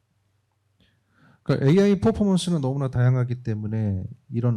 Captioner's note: speaking korean